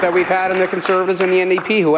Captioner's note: applause